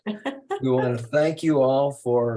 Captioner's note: laughs